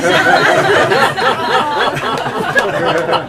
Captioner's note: laughter